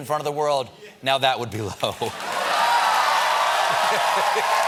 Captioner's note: cheers and applause